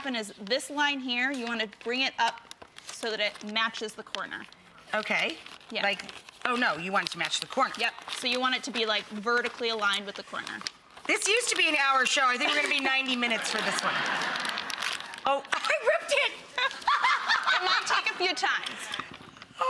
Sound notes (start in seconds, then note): 13.2 laughing